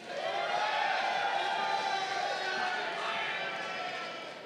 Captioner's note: crowd cheering